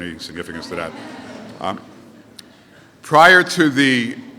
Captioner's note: laughter